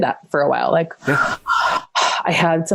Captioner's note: breaths sharply